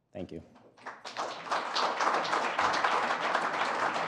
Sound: applause

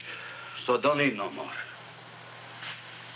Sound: sighs

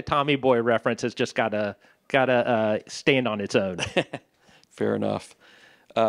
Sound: laughter

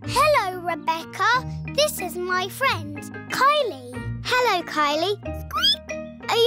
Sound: squeaks

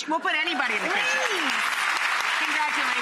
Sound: audience applauding

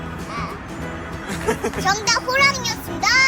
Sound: lols

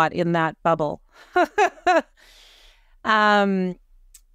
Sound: laughs

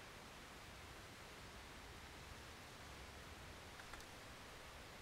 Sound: gentle wind blowing

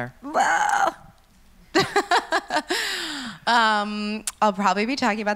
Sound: laughs

